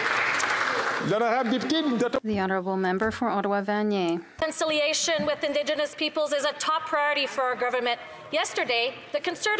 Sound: some Applause

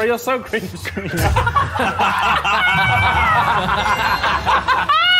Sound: Sidemen laughing

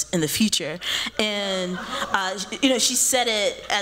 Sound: laughter

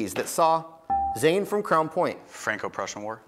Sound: buzzer beeps

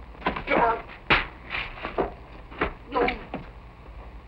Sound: grunting

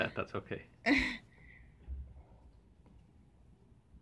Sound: laughs

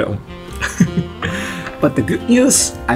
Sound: laughs

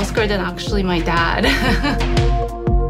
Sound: laughs

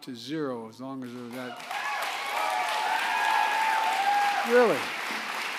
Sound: applause

